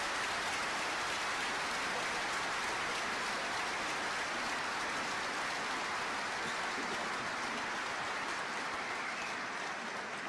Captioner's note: applause